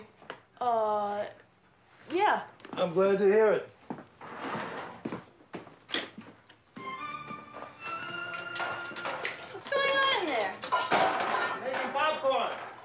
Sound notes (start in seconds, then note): 6.7 classical music; 7.9 dishes rattling